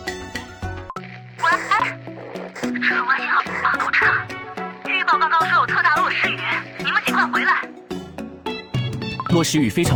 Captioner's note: Static